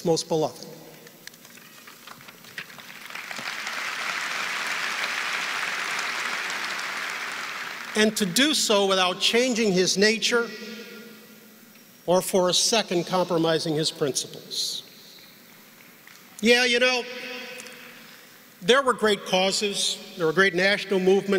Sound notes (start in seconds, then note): 9.2 applause